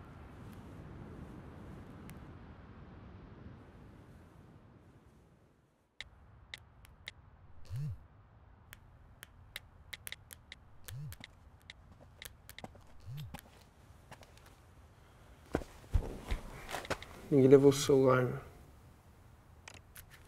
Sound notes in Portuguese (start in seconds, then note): 0.0 som de vento; 6.8 som das teclas; 7.6 celular vibra; 9.9 som das teclas; 12.9 celular vibra; 13.3 som de passos